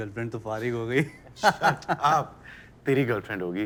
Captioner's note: laughter